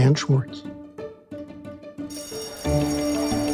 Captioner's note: bell rings; light music continues